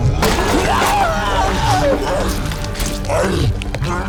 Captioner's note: suspenseful music playing; cyclops chewing and grunting; man screaming